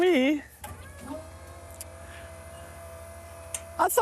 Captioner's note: mechanical whirring